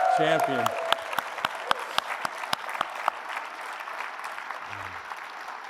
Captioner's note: applause